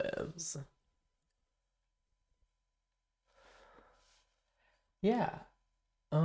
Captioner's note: silence